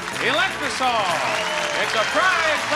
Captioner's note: audience cheering